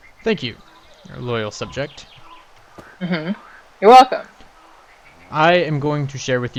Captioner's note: stompy